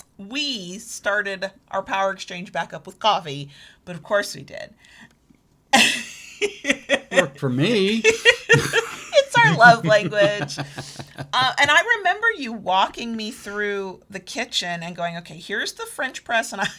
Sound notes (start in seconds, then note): 5.8 laughs